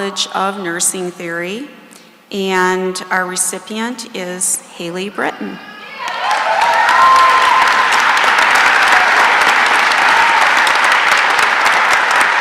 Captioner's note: cheering and applause